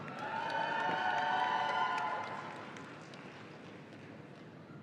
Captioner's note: audience cheering